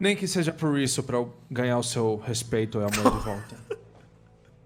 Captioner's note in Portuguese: Risadas